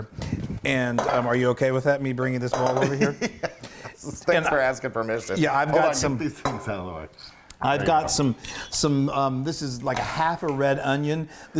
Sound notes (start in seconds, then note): 3.7 laugh